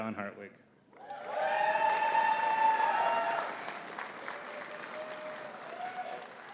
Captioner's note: audience cheering and clapping